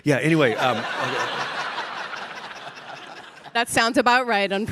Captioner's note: all laughing